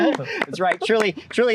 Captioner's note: wooooo, clapping